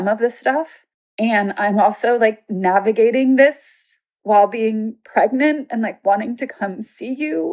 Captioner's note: speaking emotionally